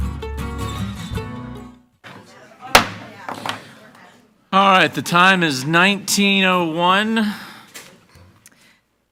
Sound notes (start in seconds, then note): 2.1 group chattering; 2.7 gavel bangs